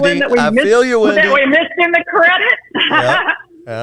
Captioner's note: laughing